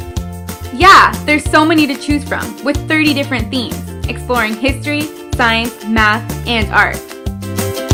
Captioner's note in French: en anglais seulement